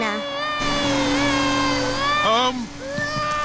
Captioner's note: crying